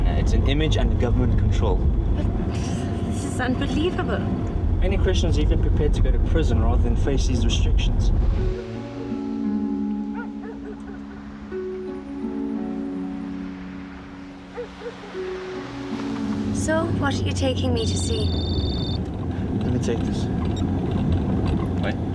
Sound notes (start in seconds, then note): 10.1 dog barking; 12.9 suspenseful orchestral music; 17.9 phone rings